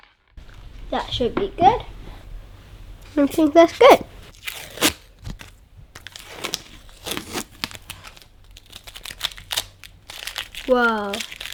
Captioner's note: tape sound